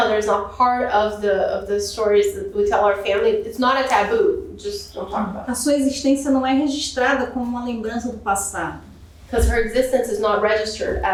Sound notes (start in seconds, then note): 6.3 speaking portuguese